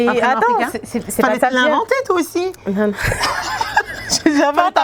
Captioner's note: laughs